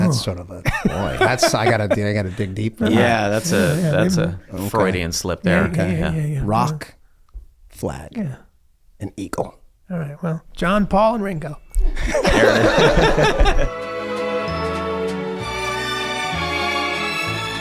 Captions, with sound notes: - That's sort of a, - Boy! (Charlie laughing) That's, I gotta dig, I gotta dig deep. - Yeah. That's a, that's a Freudian slip there. - Yeah, yeah, yeah. - Rock. Flag. - Yeah. And eagle. - All right. Well, John Paul and Ringo. (all laughing) (cheerful string music)